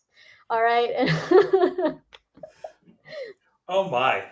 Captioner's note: chuckles